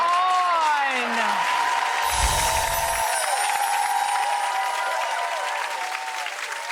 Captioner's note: audience applauds; air whooshes